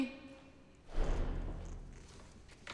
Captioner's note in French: la porte se ferme